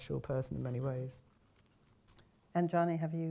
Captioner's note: silence